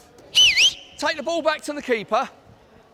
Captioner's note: blows whistle